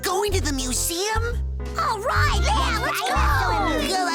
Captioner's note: excited chattering